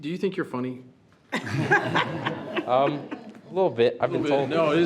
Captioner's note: all laughs